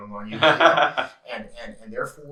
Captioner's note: laughs